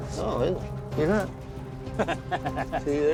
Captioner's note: laughs